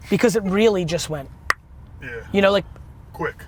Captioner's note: click